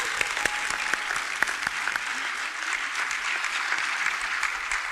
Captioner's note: chuckles; audience cheers and applauds